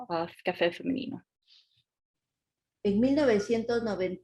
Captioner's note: speaking Spanish